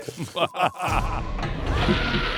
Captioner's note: laughs